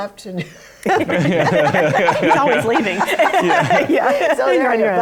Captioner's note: laughter